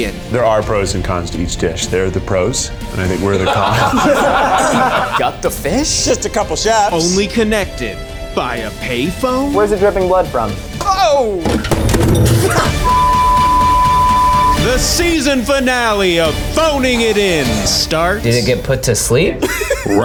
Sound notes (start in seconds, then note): 4.6 all laughing; 11.4 phone clanking; 13.0 swearing